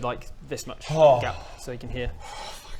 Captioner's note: sighs of relief